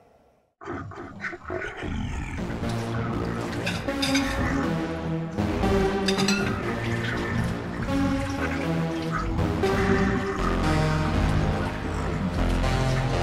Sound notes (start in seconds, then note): 4.4 wet grumbling